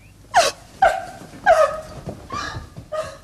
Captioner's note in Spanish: Llora